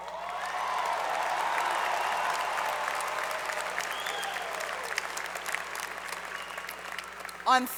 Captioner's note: applause